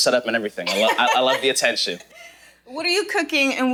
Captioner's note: laughing